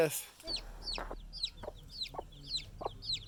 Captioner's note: chicks chirping